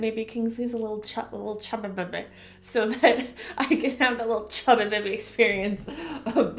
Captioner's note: chuckle